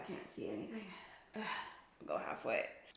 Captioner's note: sighs